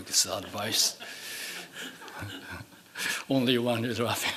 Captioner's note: laughing